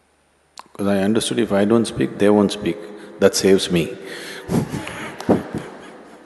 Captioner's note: laughs